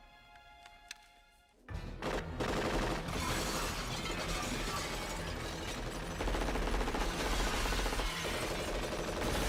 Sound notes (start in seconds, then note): 2.4 repeated gunfire, shattering glass